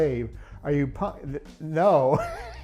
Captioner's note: laughs